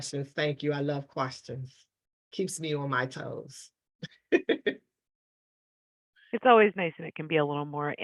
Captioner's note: laughter